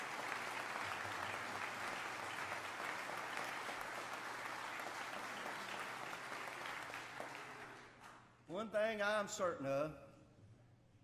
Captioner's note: applause